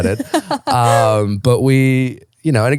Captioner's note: laughing